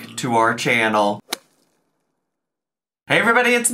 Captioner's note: logo thuds